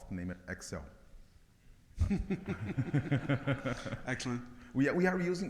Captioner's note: both laughing